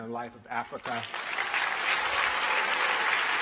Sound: applause

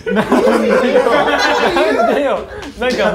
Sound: laughters

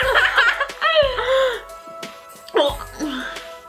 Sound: both laugh

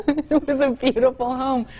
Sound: laughs

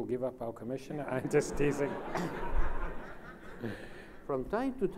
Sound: laughs

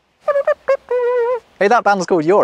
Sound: humming riff

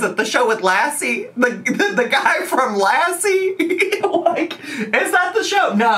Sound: laughs

